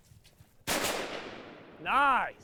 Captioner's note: rifle bangs